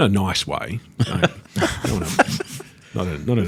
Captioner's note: all laugh